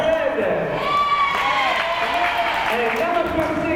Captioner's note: crowd applause